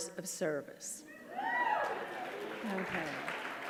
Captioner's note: audience cheering